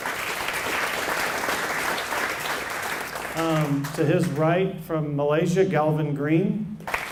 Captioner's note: applause